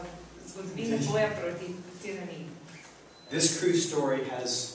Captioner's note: non-english speech